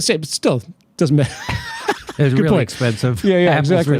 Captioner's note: both laughing